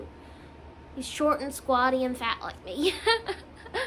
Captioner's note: laughs